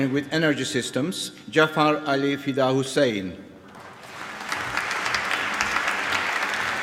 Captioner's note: applause